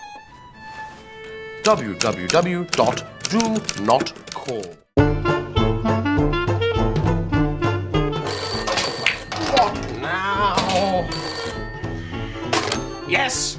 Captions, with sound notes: www.donotcall... (Phone rings) What now? Yes, hello?